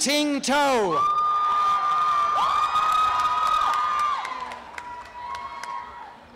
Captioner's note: applause and cheering